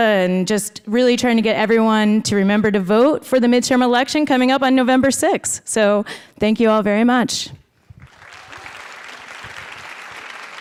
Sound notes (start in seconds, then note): 8.0 applause